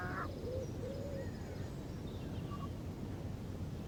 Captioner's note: animal sounds